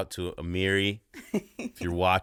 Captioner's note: laughing